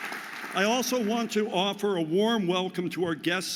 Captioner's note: audience applauding